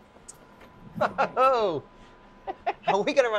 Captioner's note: laughing